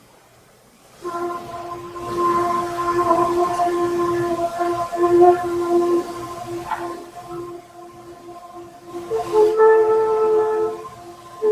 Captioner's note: atmospheric sounds